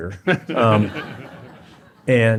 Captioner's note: laughter